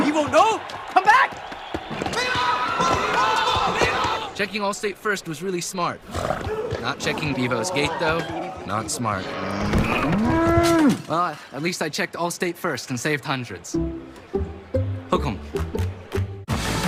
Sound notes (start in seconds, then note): 0.0 crowd cheering; 9.2 bull mooing